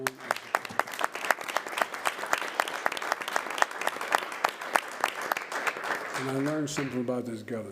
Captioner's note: applause